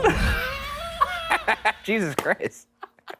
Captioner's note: laughing